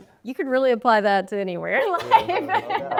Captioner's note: laughing